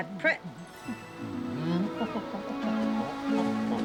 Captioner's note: humming